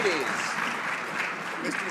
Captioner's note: some Applause